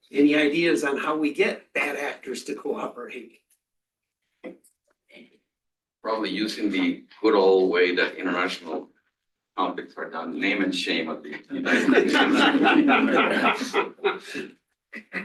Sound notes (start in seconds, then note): 11.2 laughter